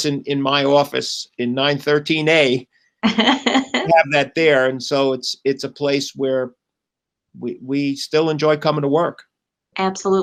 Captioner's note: laughter